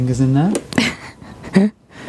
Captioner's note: laughing